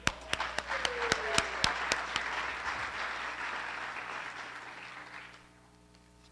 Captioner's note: applause